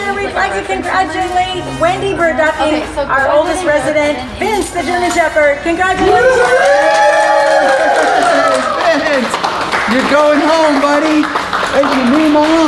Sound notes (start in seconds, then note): 6.0 everyone cheering